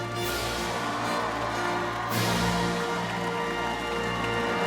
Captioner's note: fanfare playing; cheers and applause